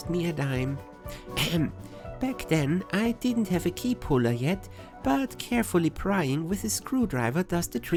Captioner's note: cough